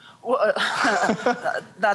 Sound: chuckling

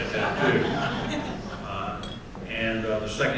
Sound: laughter

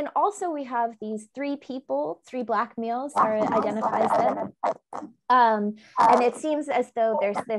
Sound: audio echo

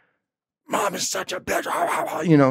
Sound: grumbling

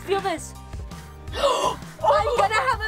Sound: gasps

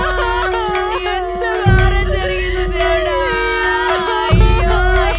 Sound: crowd crying at the funeral

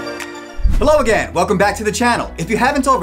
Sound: graphics whoosh; soft electronic music

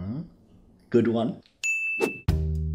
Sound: tooth ding

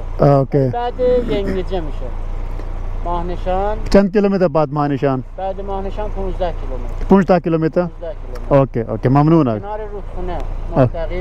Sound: speaking in Persian

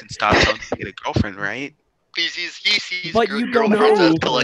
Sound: groaning; shouting, Groaning

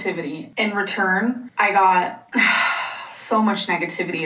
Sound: sighs

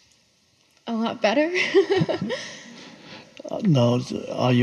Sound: laughs

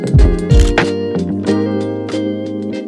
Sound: camera shutter clicks

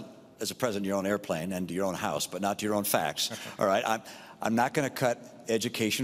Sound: laughter

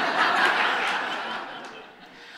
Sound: audience laughs

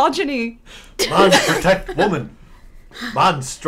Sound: chuckles

